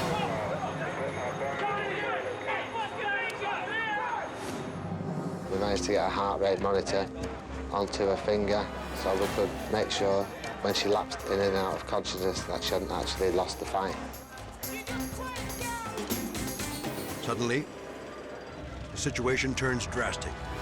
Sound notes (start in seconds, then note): 0.0 rescuers screaming indistinctly; 14.6 rescuers screaming indistinctly